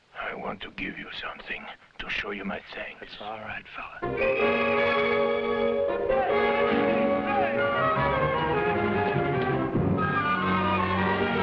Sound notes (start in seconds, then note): 4.1 whistles blowing; 6.5 officers shouting in foreign language